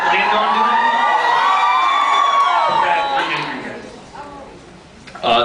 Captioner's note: cheers, screams